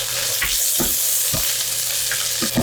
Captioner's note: sizzling ~ sizzling ~